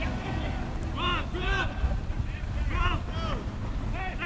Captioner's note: players shouting